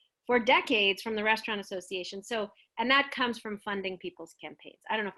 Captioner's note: none